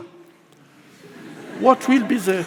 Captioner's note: audience laughs